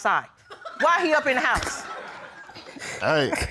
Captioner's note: audience laughs